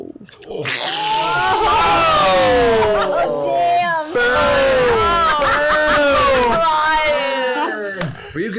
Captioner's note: groaning and laughter